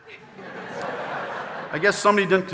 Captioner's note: audience laughing